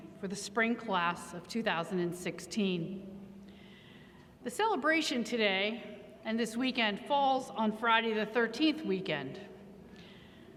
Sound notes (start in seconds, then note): none